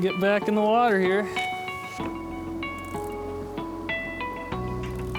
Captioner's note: voiceover